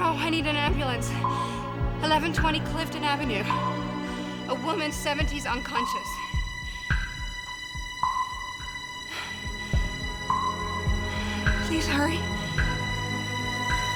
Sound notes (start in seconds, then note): 11.3 sighs